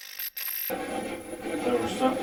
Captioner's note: static fizzing; static playback transmitting